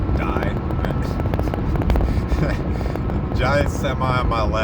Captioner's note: laugh